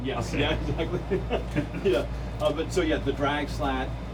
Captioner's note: both chuckle